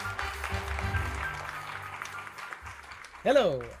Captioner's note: upbeat piano music; audience applauding